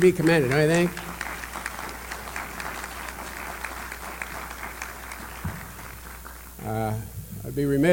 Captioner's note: applause